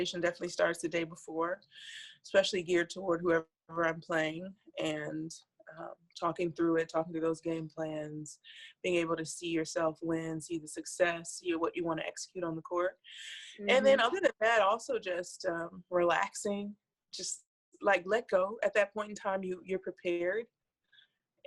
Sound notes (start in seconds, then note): 13.6 audio blurs